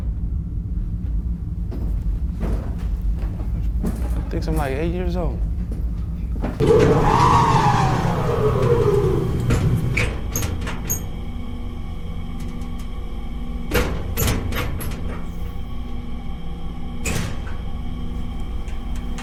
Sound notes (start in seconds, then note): 8.1 craft door opens; 11.1 metal clanking; 11.1 tense music